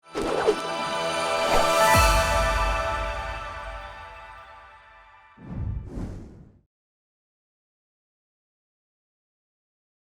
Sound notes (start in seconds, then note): 0.0 ambient music; 5.4 air whooshes